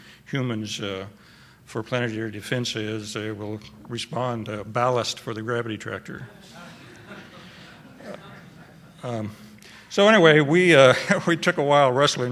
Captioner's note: laughter